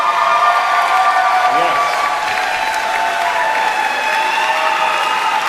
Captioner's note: applauding; cheering